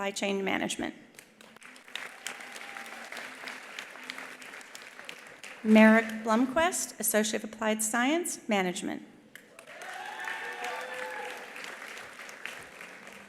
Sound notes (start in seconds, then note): 1.2 attendees applauding; 2.2 attendee cheering; 9.4 attendees applauding; 9.5 attendees cheering